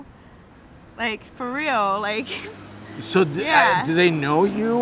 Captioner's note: laughing